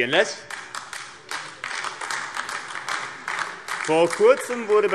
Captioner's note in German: Beifall AfD